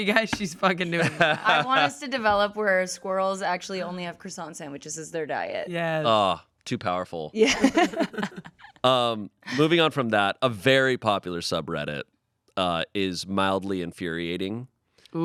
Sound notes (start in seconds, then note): 7.4 laughs